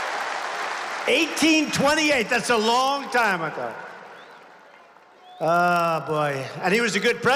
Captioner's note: applause